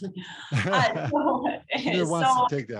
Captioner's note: laugh